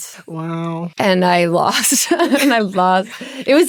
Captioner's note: laughs